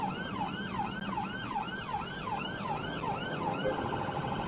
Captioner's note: police car siren; car beeps